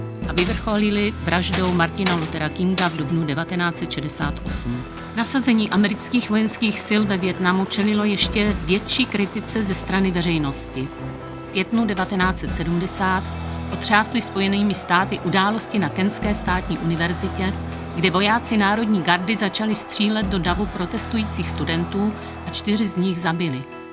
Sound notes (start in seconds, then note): 6.7 letící vrtulník